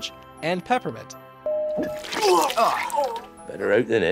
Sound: puking sounds, water splashes

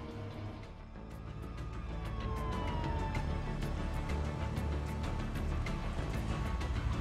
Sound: intense music begins; siren wails

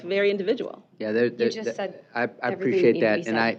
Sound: overlapping chatter

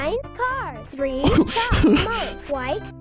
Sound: laughs

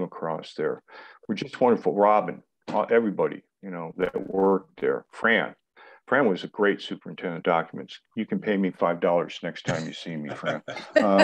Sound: laughter

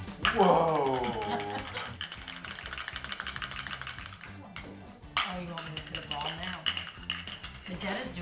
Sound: laugh

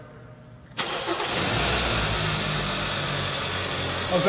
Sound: car Starting

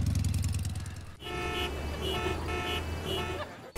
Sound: traffic noises

